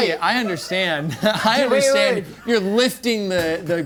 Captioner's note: chuckling